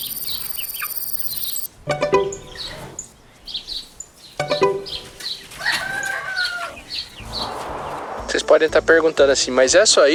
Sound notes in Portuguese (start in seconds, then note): 4.7 Cacarejos